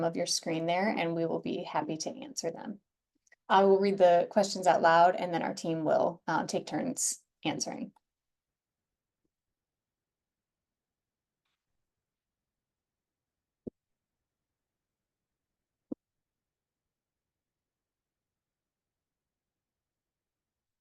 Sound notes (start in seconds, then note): 8.5 silence